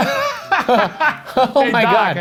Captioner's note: laugh